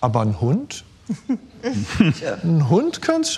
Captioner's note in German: Lachen